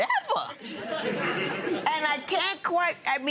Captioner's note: laughter